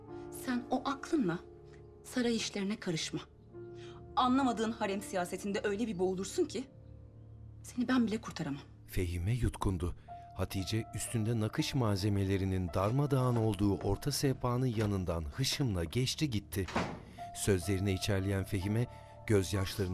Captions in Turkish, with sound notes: Sen o aklınla saray işlerine karışma. Anlamadığın harem siyasetinde öyle bir boğulursun ki... ...seni ben bile kurtaramam. (Kapı açılma sesi) (Kapı kapanma sesi)